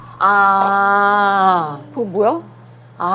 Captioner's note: sigh